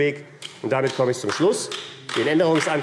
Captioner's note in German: Beifall AfD